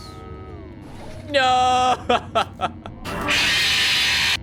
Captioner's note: laughs